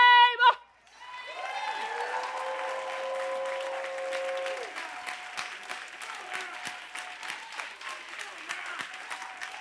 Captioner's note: applause and cheers